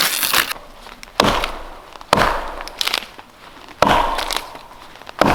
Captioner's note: hatchet thudding